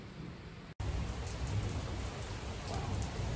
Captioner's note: heavy rainfall